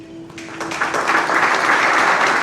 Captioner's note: applause